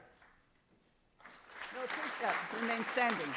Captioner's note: applause